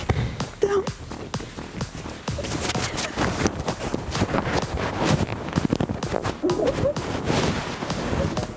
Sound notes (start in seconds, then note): 3.2 mics scuffling